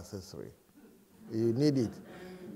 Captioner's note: laughter